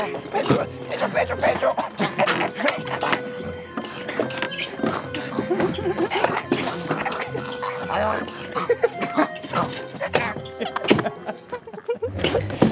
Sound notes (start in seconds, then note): 5.1 giggles; 10.4 everyone's bewildered laughter